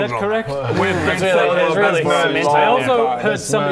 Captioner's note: unsettled grumbling